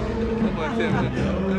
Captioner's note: indistinct chatter